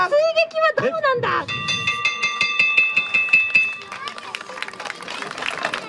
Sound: bell rings repeatedly

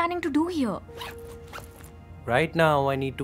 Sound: zip being closed

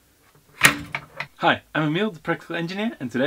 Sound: nut cracking

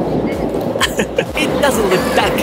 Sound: chuckles

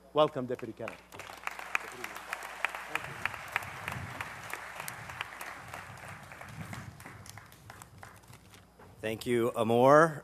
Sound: applause

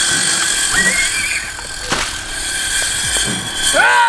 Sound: screams

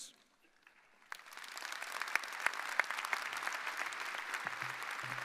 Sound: audience applauding

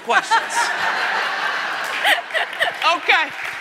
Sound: audience laughing

